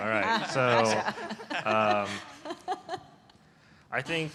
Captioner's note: laughter